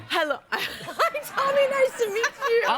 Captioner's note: laughs